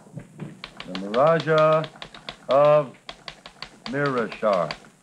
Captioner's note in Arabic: نقرة على الآلة الكاتبة